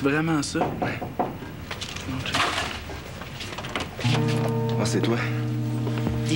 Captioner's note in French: On frappe à la porte